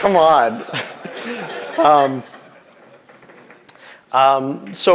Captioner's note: audience laughing